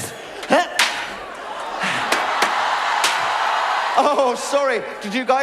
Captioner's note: shocked screaming